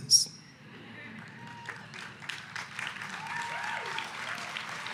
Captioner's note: audience applauding